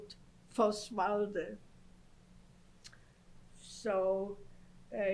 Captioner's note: non-english